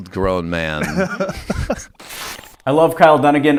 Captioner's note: laughs